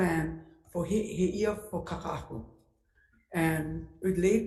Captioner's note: speaking Hawaiian